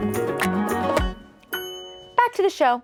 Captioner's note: chime twinkles